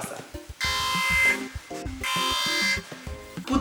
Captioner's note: alarm